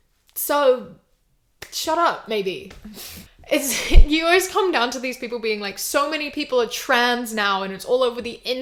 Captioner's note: huffs